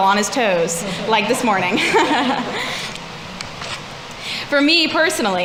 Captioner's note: laughing